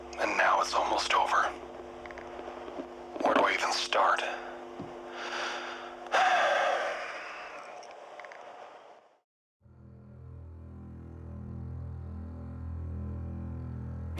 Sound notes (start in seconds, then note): 6.1 sigh